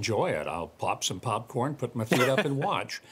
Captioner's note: laughter